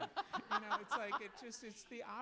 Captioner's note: laughs